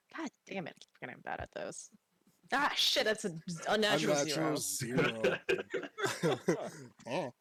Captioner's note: laughs